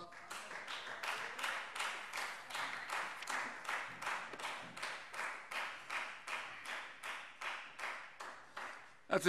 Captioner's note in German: Beifall Freie Demokraten